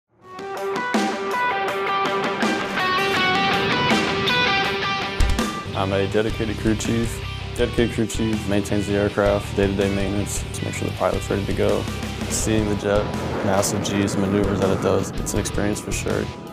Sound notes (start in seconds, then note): 0.0 jet noises; 0.0 upbeat rock music